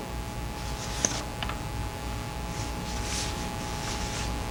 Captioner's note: papers rustling